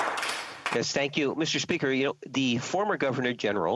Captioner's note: applause